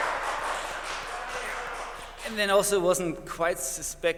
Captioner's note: applause